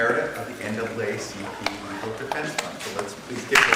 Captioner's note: applause